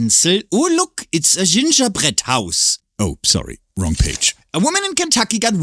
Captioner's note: paper rustling